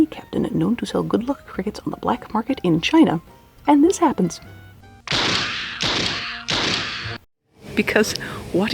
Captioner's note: gun fires 3 times offscreen